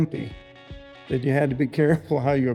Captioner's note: laughs